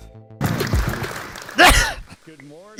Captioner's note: applause